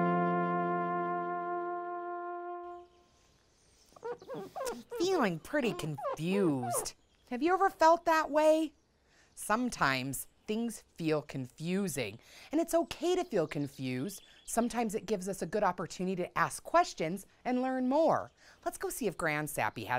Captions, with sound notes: - (scraping) I'm feeling pretty confused. Have you ever felt that way? Sometimes things feel confusing, and it's okay to feel confused. Sometimes it gives us a good opportunity to ask questions and learn more. Let's go see if Grand Sappy has any advice for us